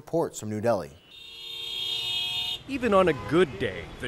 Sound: car horns honking

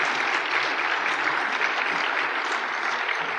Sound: applause

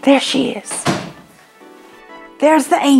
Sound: door closes

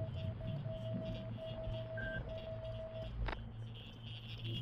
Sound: electronic beeping

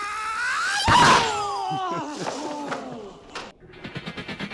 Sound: karate Screaming

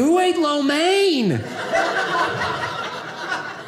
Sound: audience laughing

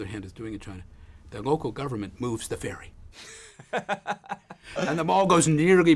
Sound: laugh

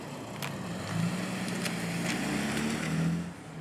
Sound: car drives off

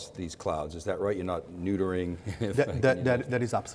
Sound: chuckles

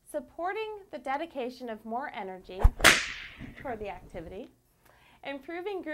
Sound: whip crack

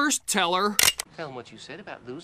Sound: crossbow cocks

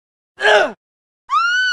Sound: groan; scream

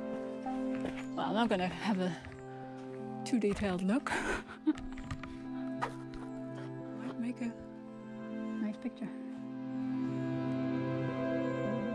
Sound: nervous laugh

